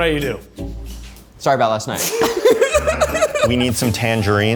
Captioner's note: both laughing